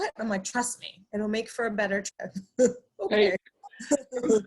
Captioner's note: laughs; both laughs